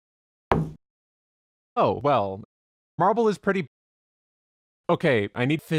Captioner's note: thud